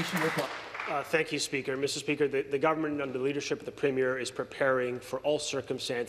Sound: applause

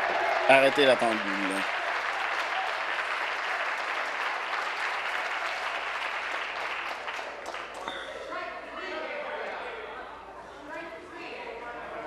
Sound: applause

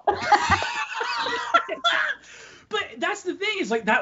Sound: both laughing

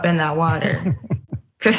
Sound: laugh

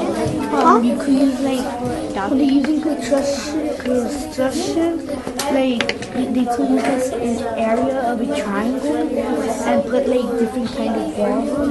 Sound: students discussing in groups

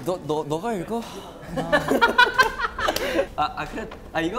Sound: laughing

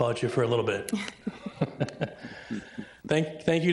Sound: people chuckling

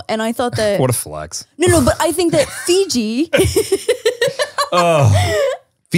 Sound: laughs

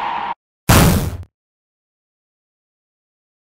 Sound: impact

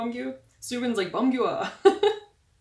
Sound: laughs

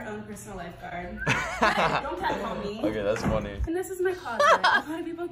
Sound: laughs

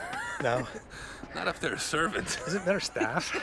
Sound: Jeff laughs; laughs

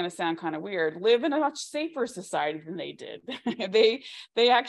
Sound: laughs

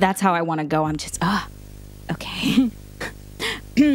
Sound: giggles

